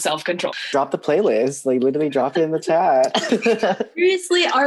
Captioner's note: laughs